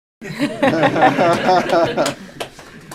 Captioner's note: laughter; applause